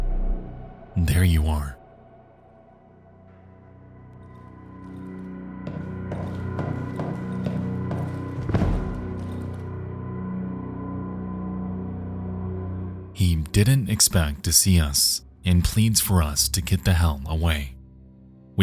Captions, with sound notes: There you are. (footsteps thudding) (pensive music) He didn't expect to see us, and pleads for us to get the hell away.